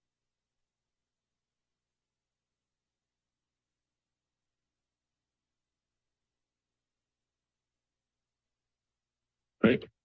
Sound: silence

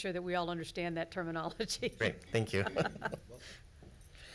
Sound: laughs

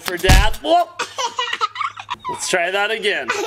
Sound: giggling

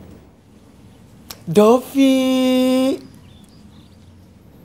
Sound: singsong-y voice

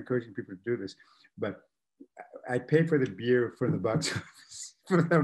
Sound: laughs

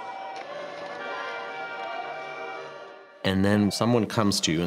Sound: sirens wailing

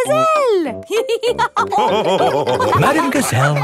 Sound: all laughing

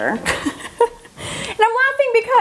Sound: laughs

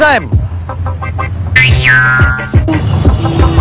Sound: boing

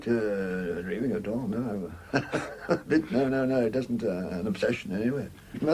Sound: laughs

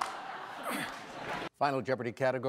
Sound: audience laughing; grunting

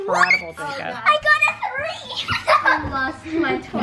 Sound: laughs

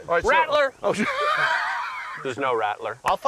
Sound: laughs

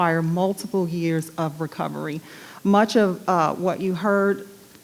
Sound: none

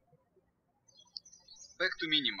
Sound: birds chirping

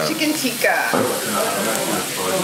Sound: sizzle sounds

